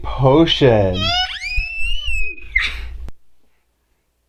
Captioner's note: squeaks of excitement